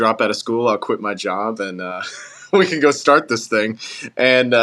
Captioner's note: laugh